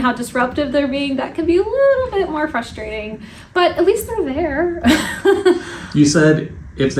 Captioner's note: laugh